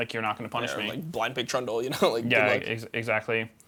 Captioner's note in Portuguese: risos